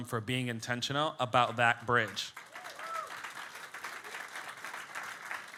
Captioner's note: audience clapping